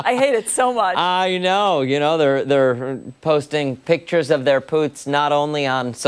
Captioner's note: laughter